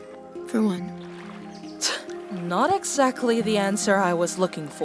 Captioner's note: scoffs